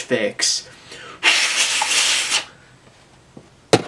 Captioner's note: blows cartridge